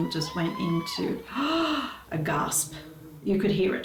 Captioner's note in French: halète dramatiquement